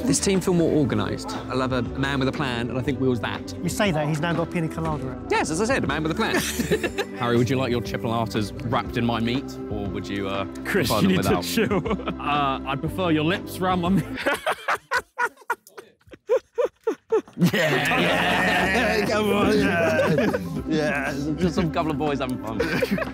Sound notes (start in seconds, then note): 6.3 both laughing; 11.1 laughs; 14.0 laughing; 14.7 music stops